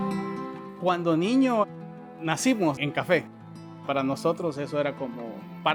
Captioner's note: speaking Spanish